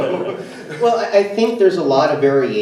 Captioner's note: everyone laughs